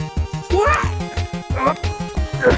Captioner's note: More Luigi Noises